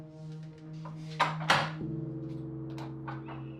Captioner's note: door creaking open